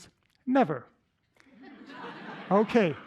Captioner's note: laughter